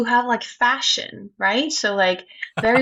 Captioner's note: laughs